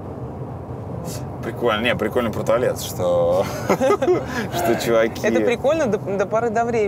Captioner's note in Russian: смеётся